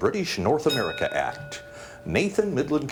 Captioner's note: bell dings